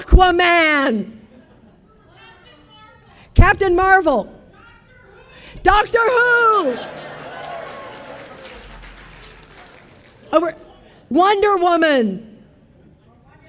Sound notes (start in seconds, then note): 6.7 audience applauding